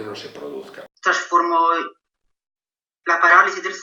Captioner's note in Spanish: Testimonio en Italiano